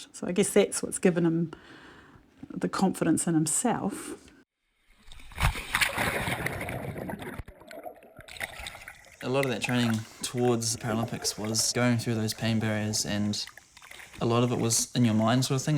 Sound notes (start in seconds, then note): 5.4 splashing